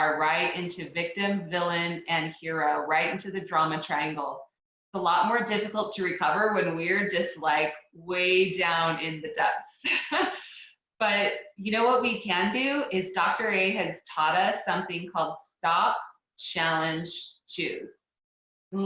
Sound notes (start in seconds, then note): 9.9 laughs